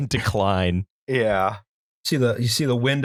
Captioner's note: laughter